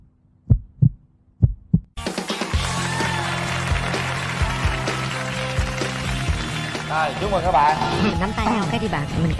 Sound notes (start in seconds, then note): 2.0 applause